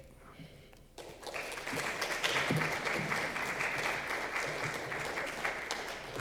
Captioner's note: applause